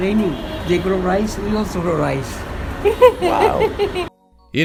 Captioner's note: laughs